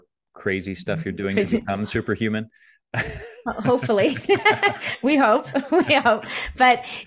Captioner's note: chuckles